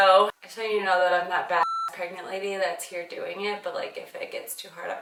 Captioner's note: beep